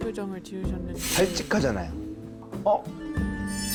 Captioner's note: pleased sound effect